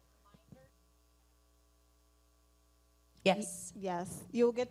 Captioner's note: speaking away from mic